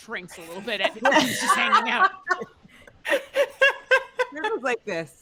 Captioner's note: laughing